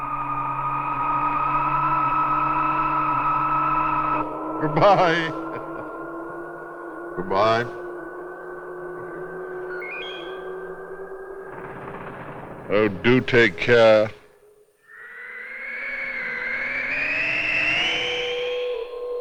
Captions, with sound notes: (CHUCKLING) Goodbye! Goodbye. (ELECTRONIC BEEP) Oh, do take care.